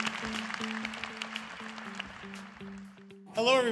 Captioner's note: applause